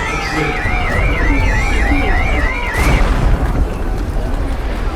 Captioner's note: sirens blaring; crowd rushing